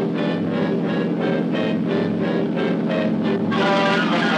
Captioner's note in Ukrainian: рев мотора